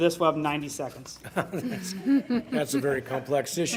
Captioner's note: laughing